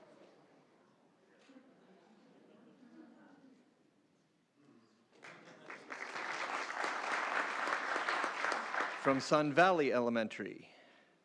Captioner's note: applause